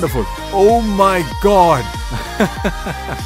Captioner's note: laughs